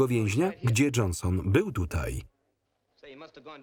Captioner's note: people chatting